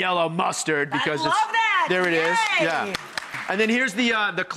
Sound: crowd applauding

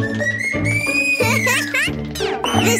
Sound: laughs

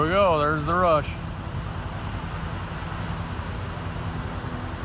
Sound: gushing water sound

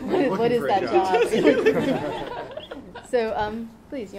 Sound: laughing

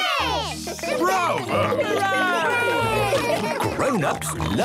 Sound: cheering, applauding

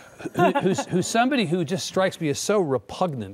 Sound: laughter

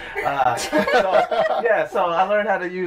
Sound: laughter

